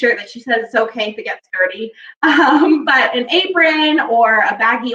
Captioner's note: laughing